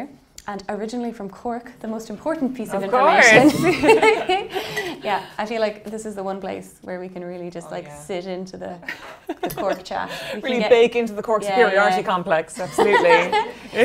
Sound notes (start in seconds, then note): 3.0 laughing; 8.9 laughing